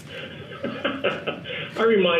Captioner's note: laughs